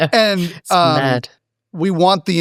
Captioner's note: laugh